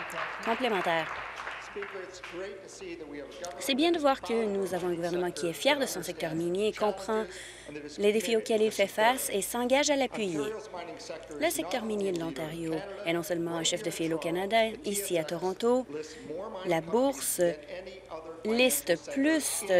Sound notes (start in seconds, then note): 2.4 applause